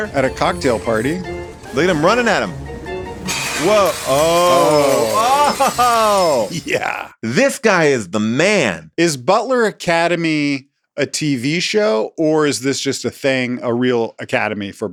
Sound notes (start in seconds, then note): 3.2 glass smashing; 4.1 laughs